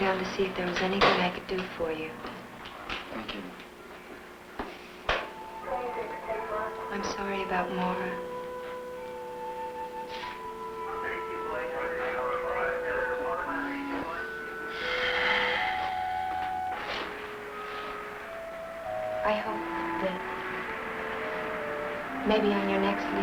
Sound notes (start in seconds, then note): 4.2 gentle music; 14.8 Johnny sighs